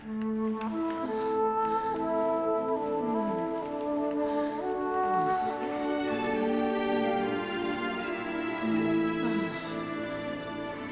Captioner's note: passionate moaning